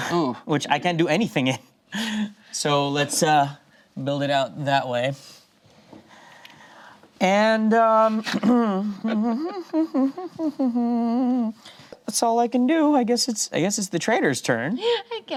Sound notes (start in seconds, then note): 8.0 hums